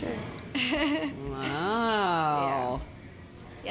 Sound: laughs

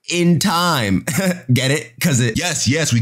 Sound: chuckles

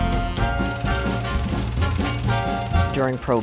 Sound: 1920s music; old film reel sounds

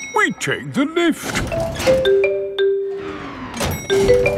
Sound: elevator dings

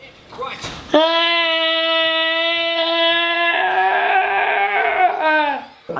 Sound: shouts

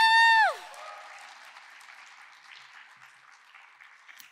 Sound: cheers; audience clapping

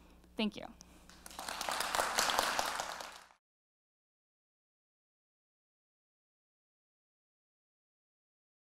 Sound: applause

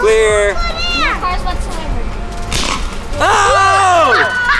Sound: club pops

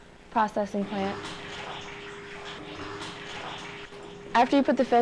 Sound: tank filling up

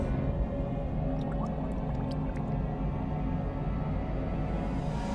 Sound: water bubbling

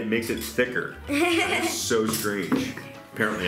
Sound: laughs

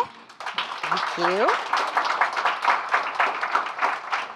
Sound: audience applauding

